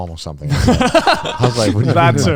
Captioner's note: laughing